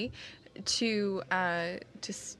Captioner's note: speaking French